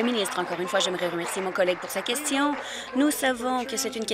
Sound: applause

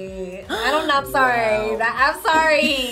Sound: React gasps

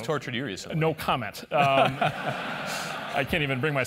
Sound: laugh

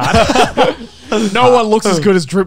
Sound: laughing

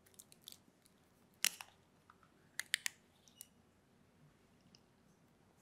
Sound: bottle seal cracks

